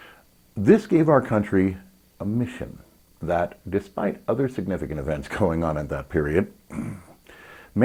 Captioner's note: ahem